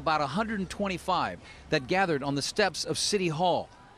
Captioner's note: chanting